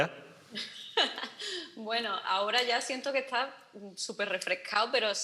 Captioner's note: laughs